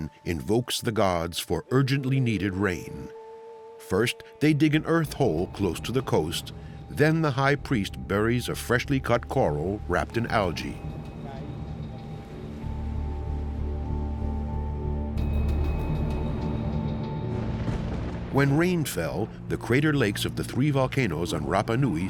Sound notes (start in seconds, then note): 16.4 thunder crashes